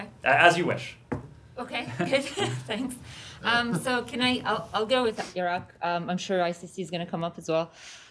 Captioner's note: laughter